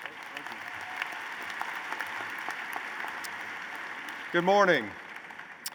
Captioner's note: applause